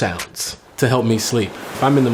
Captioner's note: waves crashing